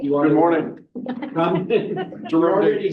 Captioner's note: everyone laughs